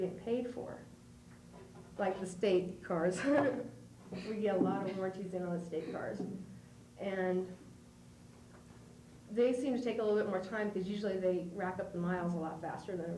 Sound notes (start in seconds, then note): 3.1 laughs